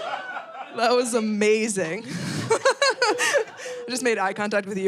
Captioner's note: laughs